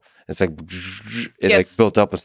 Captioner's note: vocalizing